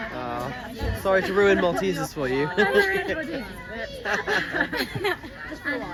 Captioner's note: laughs